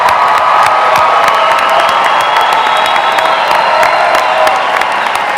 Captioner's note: applause